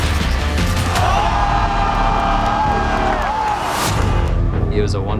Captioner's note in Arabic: تشجيع الجمهور